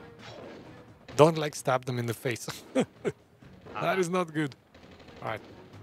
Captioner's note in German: Lacht